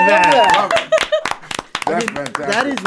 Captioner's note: all cheering